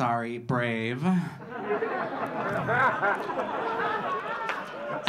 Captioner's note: audience laughing